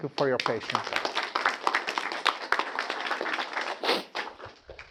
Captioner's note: students applauding